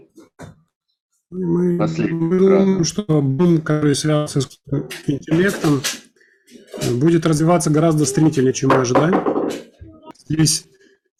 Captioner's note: communication interference